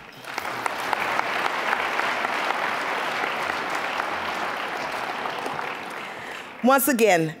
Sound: applause

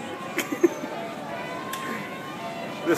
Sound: more giggles

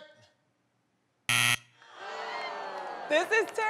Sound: buzzer

